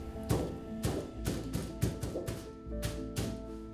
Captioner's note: canvas thuds